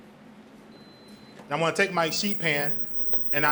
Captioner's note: burner beeps